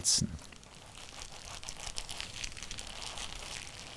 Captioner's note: rustling, crackling